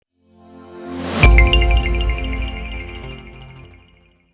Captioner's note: logo ringing